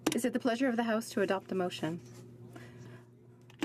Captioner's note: speaking French